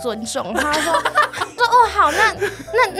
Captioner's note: can’t stop laughing XD